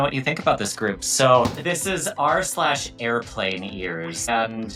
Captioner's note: screenshot thudding